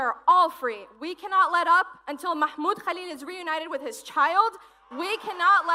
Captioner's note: cheers and applause